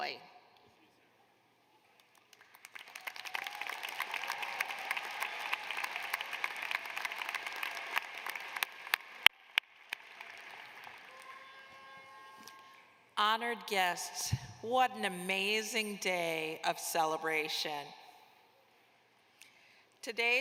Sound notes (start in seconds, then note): 6.9 cheers and applause